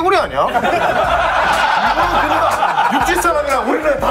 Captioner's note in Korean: 빵 터짐